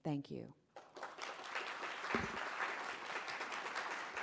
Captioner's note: applause